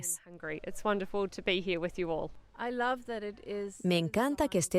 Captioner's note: Hablando idioma extranjero